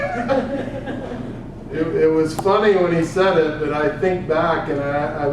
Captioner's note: laugh